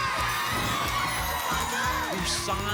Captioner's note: applause and cheering